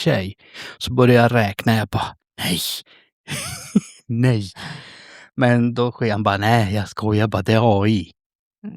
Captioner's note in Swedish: skratt